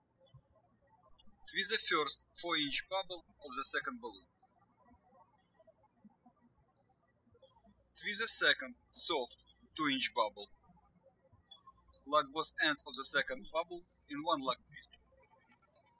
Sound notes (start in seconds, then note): 5.1 birds chirping; 15.8 birds chirping